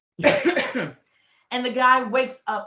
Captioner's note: coughing